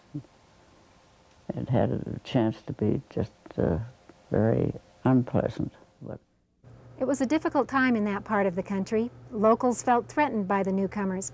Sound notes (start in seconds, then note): 6.9 voiceover